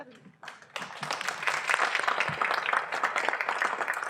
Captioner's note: applause